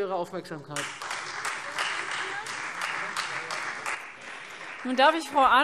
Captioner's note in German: Beifall Freie Demokraten